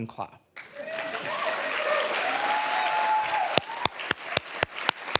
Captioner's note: audience applauding